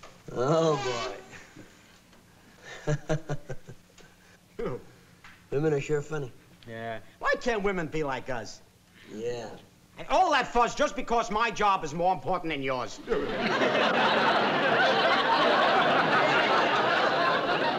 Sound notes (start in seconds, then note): 2.6 laughs